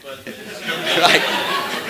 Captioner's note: laughter